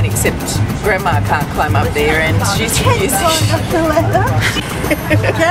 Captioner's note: laughs